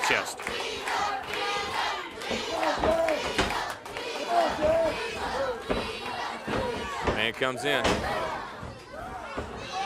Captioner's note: crowd cheering